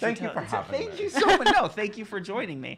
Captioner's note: laughing